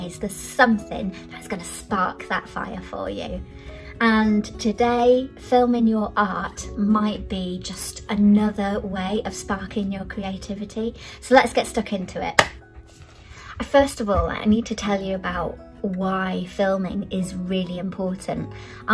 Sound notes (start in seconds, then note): 12.3 clap